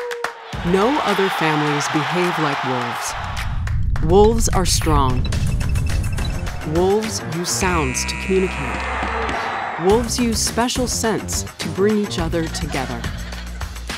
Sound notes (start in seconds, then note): 7.6 crowd cheering